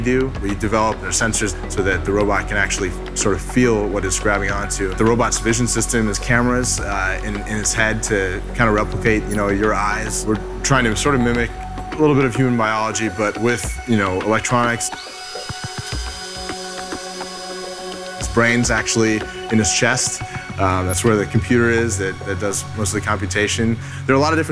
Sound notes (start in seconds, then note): 14.9 power drill whirring